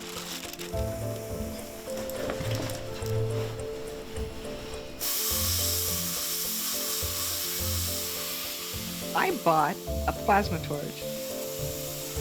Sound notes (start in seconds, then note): 0.0 upbeat music; 4.7 plasma torch hissing